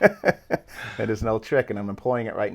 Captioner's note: laughing